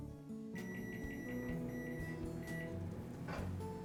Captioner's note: microwave beeping